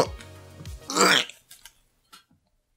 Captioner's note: retches